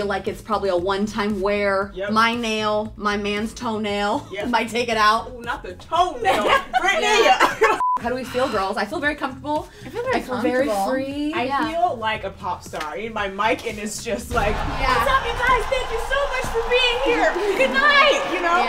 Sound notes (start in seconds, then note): 7.8 beep